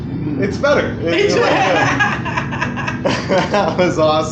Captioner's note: laughter